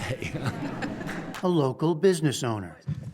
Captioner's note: laughter